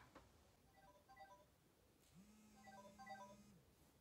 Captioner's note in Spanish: alarma